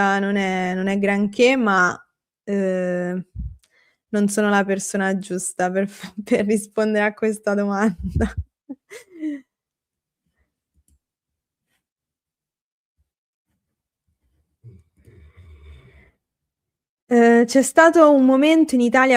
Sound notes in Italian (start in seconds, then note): 10.5 risate